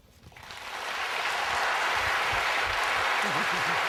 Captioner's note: applause